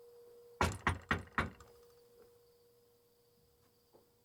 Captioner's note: knocking